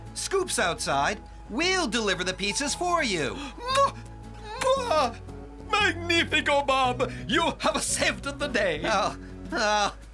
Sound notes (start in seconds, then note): 4.4 smooch! Smooch!